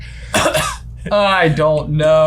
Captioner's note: coughs